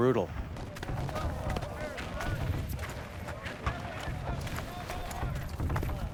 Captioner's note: multiple soldiers speaking faintly